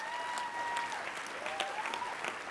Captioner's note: applause